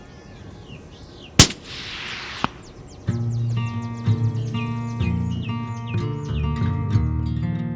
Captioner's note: gun shot